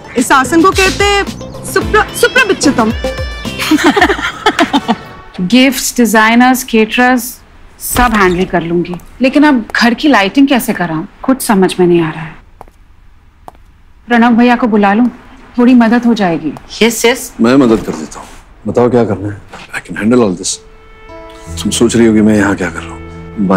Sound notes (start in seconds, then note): 3.5 Everyone laughing; 8.0 Door opens